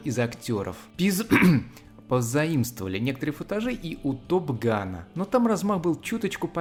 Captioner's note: ahem